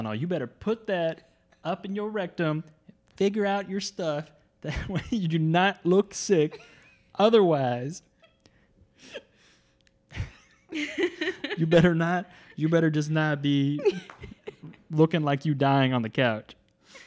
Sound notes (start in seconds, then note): 10.1 laughing